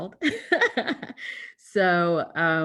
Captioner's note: laughs